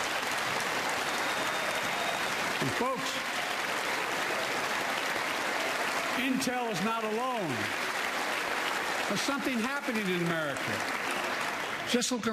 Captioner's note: applause